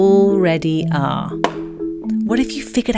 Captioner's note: balloon pops